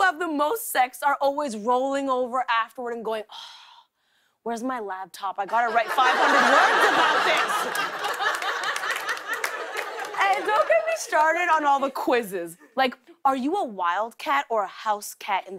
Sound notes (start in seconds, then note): 7.4 laughter and applause